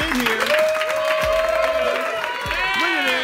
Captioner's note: cheering